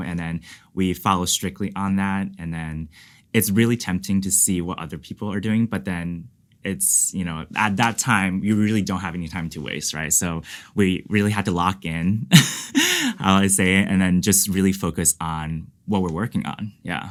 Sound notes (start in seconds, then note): 12.3 laughs